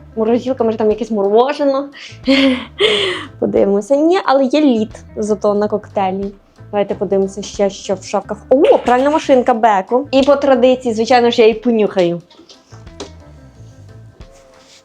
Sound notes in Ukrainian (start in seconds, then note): 2.2 сміх; 3.1 хекання